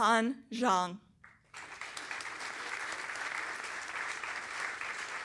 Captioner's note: applause